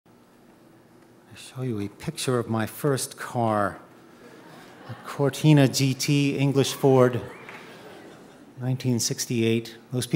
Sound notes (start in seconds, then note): 4.1 audience chuckling